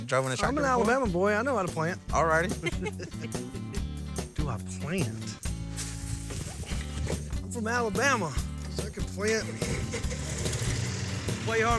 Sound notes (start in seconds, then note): 2.6 giggling